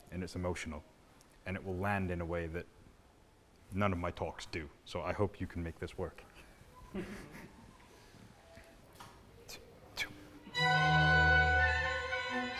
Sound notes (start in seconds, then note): 6.8 soft laughter